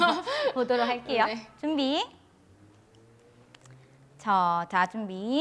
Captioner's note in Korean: 웃음